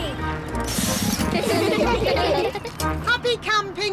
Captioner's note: all giggling